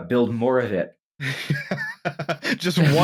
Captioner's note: laughter